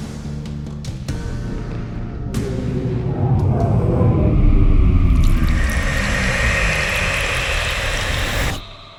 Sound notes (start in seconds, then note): 2.3 ominous tones; 5.0 moist sounds